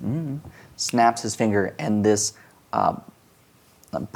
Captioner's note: snaps